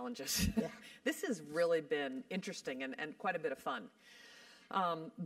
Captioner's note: laugh